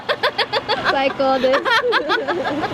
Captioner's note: laughter